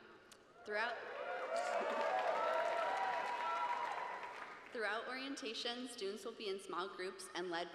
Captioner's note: cheers